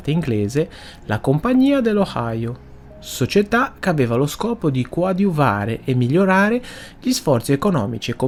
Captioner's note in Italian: sbuffare